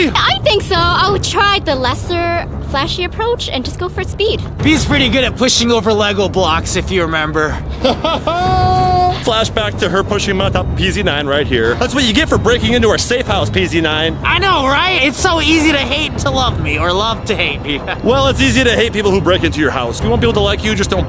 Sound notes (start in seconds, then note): 7.7 laughing